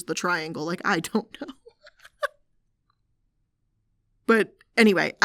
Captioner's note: laughing